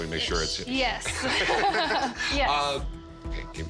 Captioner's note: both laugh